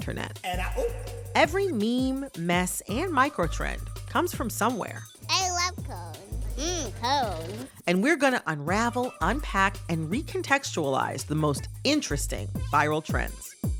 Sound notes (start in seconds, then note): 4.9 soundbite of archived recording